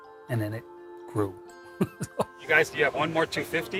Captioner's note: laughs